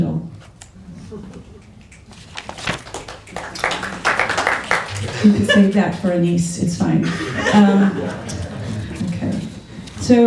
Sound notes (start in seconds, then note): 0.1 applause; 6.9 laughter